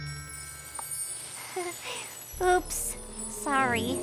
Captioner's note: laughs nervously